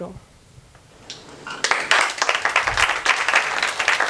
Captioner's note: applause